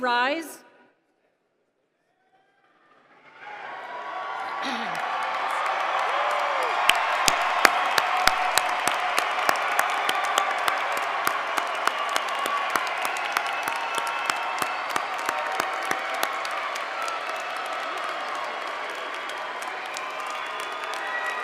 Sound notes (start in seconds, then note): 10.1 cheers and applause